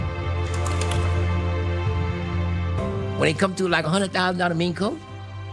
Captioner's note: laughs